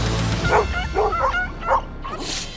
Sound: barking

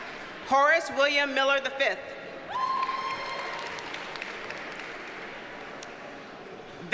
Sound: audience cheers and applauds

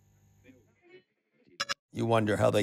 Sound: digital blip

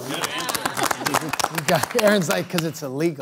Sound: scattered applause

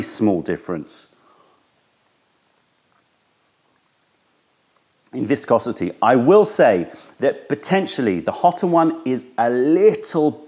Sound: sips tea

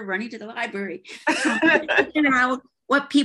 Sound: laughs

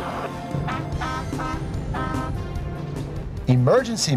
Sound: horn honking

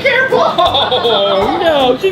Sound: laughs

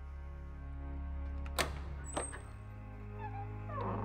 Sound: door clicks

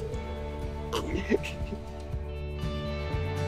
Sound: laughs

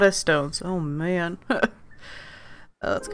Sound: laughs

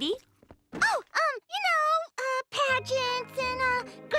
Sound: none

